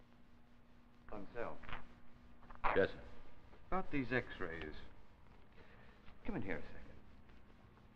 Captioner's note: Willis' Voice